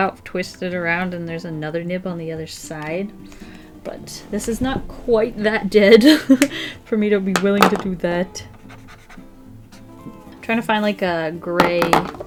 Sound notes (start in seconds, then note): 5.8 laughs